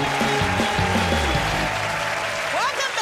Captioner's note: cheers and applause